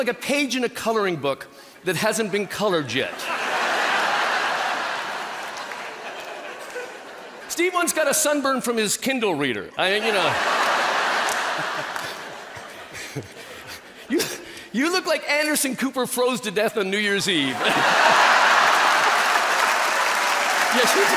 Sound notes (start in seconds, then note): 3.1 people laughing; 9.9 people laughing; 17.4 people laughing